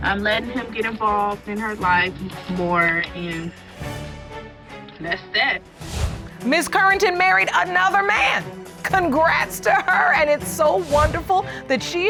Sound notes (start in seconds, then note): none